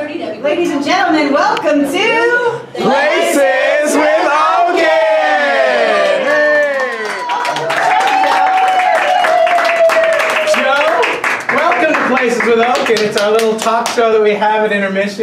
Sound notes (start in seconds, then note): 6.6 claps; 6.8 cheers